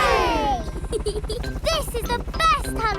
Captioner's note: peppa giggles